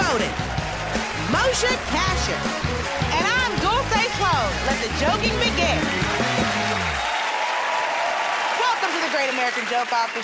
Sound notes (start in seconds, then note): 6.0 cheers and applause